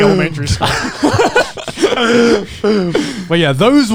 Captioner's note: men laugh